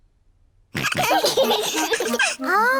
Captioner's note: all laughing